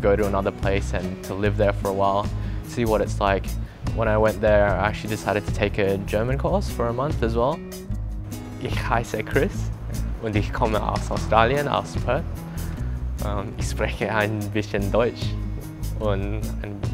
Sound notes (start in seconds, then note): 9.7 speaks German